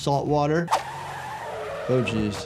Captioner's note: car wheel squeaking